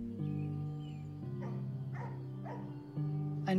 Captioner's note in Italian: cane abbaia